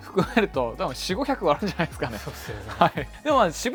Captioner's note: laughs